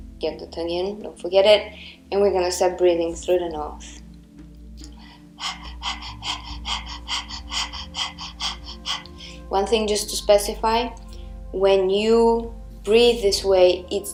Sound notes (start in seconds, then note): 4.9 panting loudly